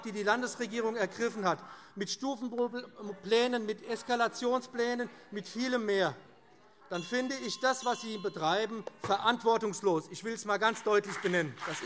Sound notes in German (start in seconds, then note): 6.9 Weitere Zurufe - Glockenzeichen